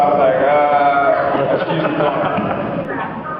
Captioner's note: laughs